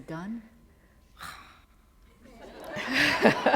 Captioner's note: laughter